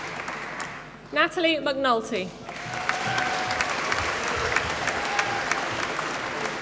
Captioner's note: applause